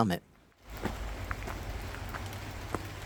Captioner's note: sound of running water